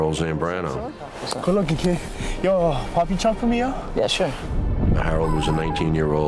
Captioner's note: speaking spanish